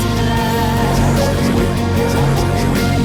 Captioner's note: quiet vocoder sounds under dialogue text